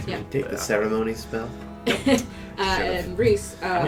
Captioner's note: chuckles tiredly